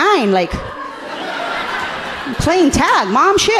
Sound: audience laughing understandably

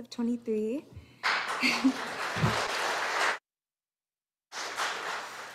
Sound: audience applauding

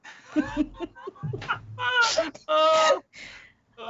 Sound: laughs

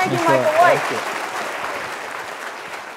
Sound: applause

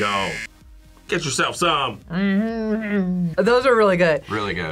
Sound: hums happily

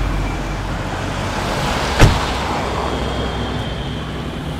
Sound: door slams

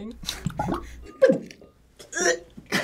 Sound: egg gurgling

